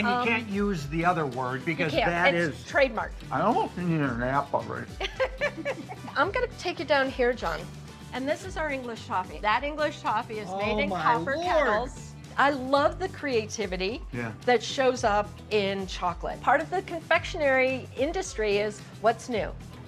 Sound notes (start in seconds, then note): 5.0 laughs